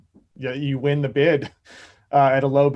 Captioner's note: chuckles